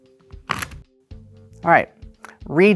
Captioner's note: cards riffling